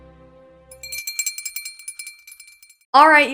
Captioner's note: bell rings